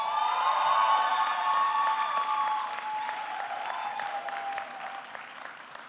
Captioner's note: audience cheering; audience clapping